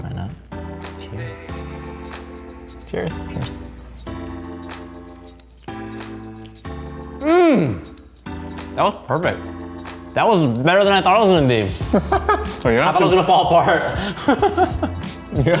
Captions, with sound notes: ( upbeat music) - Cheers. (upbeat music) - That was perfect. That was better than I thought I was gonna be. (laughing) - it's not gonna fall apart.